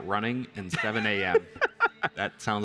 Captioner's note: laughs